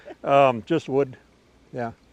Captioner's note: laughing